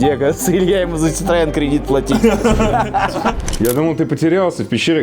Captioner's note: sarcasm